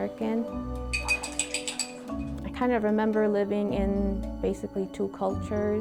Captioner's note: gentle instrumental music; paintbrush taps